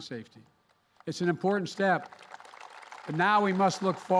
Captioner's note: applause